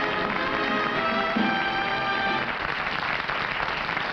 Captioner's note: applause